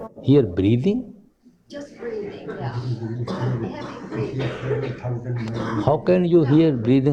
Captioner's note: slight laughter in the background